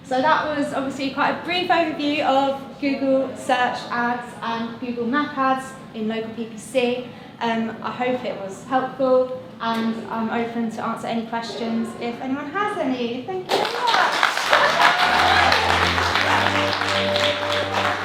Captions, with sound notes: So, that was obviously quite a brief overview of Google Search ads and Google map ads in Local PPC and I hope it was helpful and I'm open to answer any questions, if anyone has any. Thank you very much! (crowd applauding) (upbeat music)